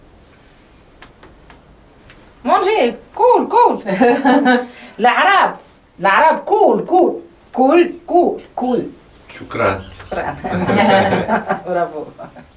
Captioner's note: Arabic